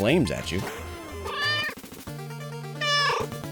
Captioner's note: meow